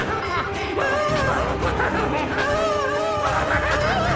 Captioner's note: Karen laughing; Helen groaning